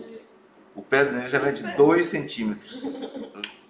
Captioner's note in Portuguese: risos